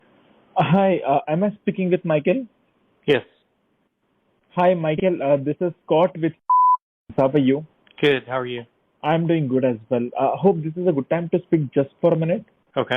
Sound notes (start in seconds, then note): 6.5 beeps